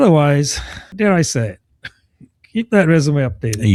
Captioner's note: uh